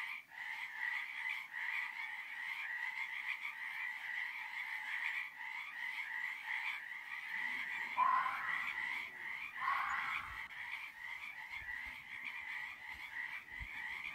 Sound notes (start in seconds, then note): 11.6 frogs croaking